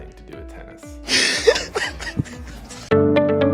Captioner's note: laughs; theme music